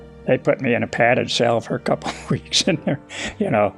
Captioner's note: chuckles